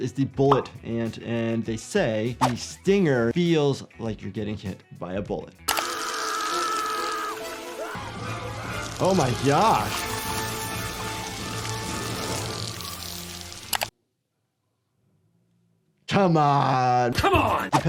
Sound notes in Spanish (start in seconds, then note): 5.7 música dramática; 6.6 hombre gritando